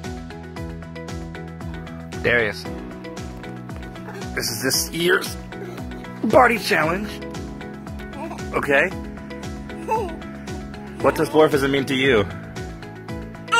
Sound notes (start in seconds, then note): 8.1 baby giggles; 9.8 baby laughs